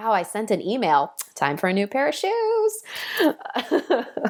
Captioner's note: laughing